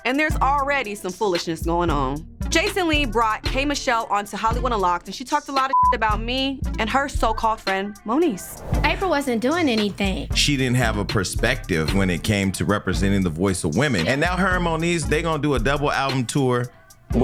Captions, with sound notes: And there's already some foolishness going on Jason Lee brought K Michelle onto Hollywood unlocked and she talked a lot of (beep) about me and her so-called friend Moniece - Apryl wasn't doing anything. - She didn't have a perspective when it cameto representing the voice of women and now her and Moniece they gonna do a double album tour.